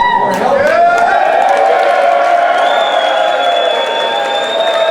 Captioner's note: crowd cheering raucously